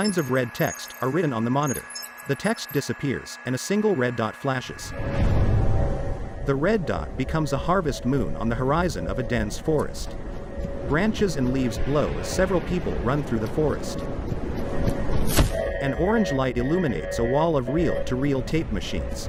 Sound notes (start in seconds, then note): 11.1 footsteps running; 15.3 alarm sounding